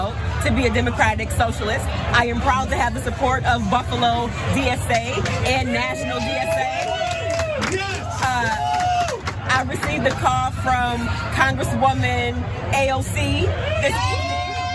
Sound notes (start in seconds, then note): 6.1 applause